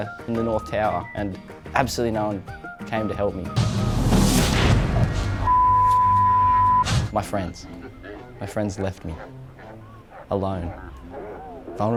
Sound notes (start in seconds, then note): 3.6 door slams; 5.4 beep